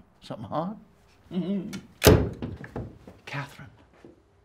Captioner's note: chuckles